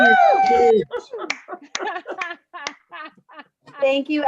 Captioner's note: laughing